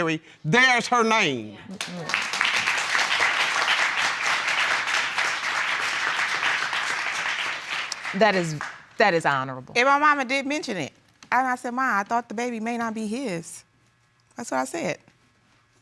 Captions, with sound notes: there's her name. (AUDIENCE APPLAUDING) That is... That is honorable. And my momma did mention it. And I said, "Ma, I thought the baby may not be his." That's what I said.